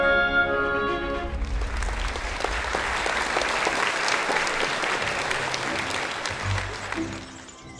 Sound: applause

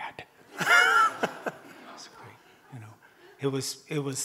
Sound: audience laughing

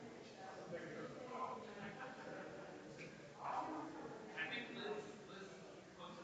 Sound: people chattering distantly continues

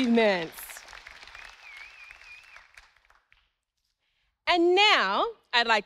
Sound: audience applauding

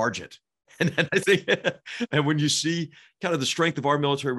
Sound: laugh

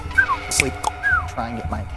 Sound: cluck-snap-whistle!

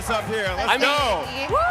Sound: cheering

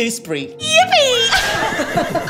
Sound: horse neighing; both giggling

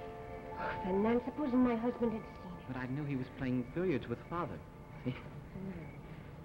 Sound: chuckle

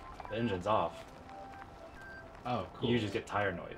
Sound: tires rolling

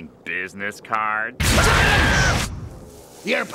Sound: screaming

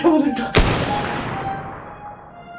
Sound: merciless gunshot…

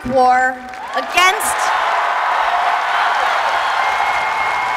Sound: applause

